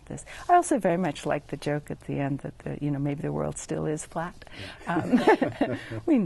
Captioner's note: laugh